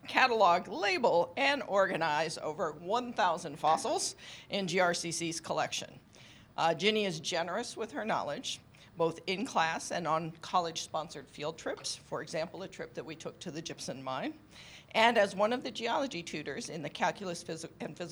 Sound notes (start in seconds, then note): none